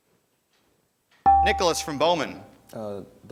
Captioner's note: ding